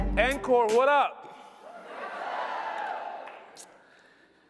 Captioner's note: audience replies